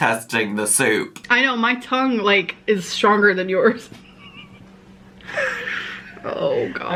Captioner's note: laughing